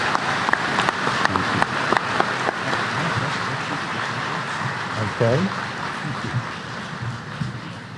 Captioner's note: applause